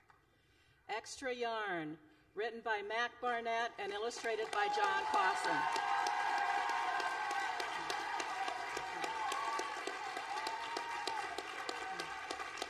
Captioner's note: applause